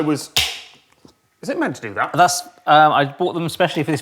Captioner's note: loud pop